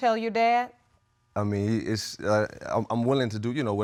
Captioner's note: stammers